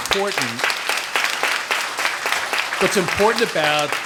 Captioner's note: audience applauds